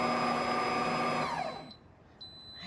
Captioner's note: motor stopping